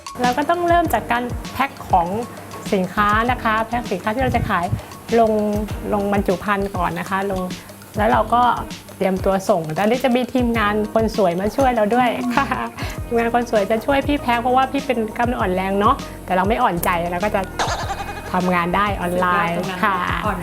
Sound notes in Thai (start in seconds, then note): 12.3 หัวเราะ; 17.6 เสียงเอฟเฟกต์